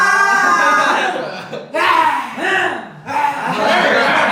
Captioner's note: grunting